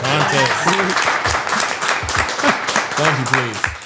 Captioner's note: group applauding